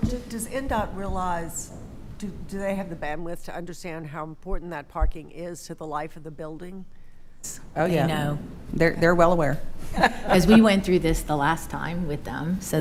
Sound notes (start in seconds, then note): 9.9 laughing